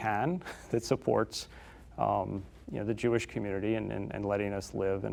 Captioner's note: chuckling